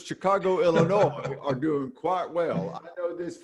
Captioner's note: laughing